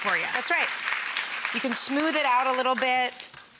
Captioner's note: audience applause